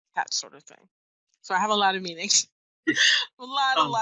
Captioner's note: laughs